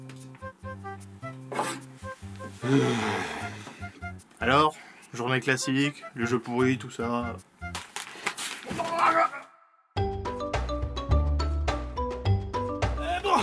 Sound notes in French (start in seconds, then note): 2.6 grognement; 7.7 bruit de ballon de baudruche; 10.0 Musique entraînante